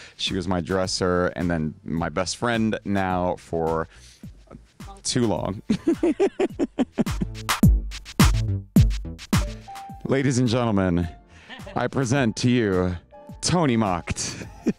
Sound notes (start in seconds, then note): 5.6 Conrad laughing; 7.5 upbeat music; 14.2 Conrad laughing